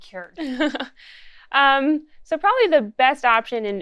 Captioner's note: laughs